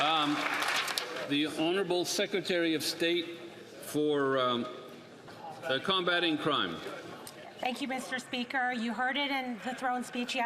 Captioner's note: some Applause